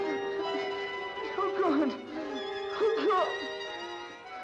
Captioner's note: moaning in pain